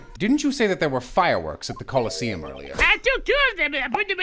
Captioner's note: none